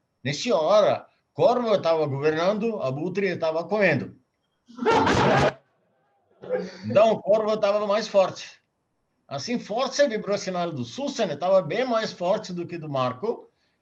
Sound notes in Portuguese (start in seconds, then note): 4.8 risos